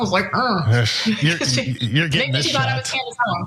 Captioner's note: laugh